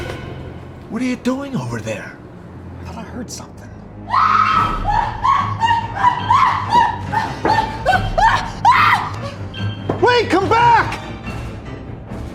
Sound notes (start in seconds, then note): 0.0 tense music; 4.0 Pita screaming frantically